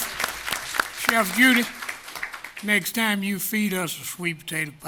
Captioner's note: applause